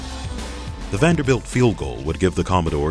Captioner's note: voiceover